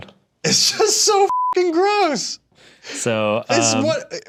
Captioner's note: beep